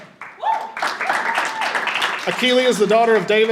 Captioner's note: audience applauding